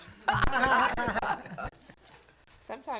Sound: laughter

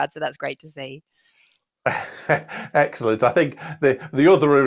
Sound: laughs

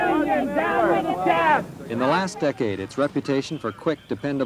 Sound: chanting

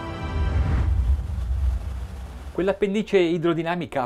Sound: cinematic violin music; waves roaring; speaking in Italian

